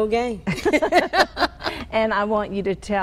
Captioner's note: laughing